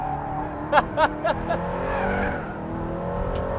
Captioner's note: laughs